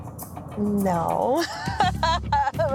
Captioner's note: laughs